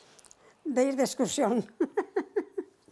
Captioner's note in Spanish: ríe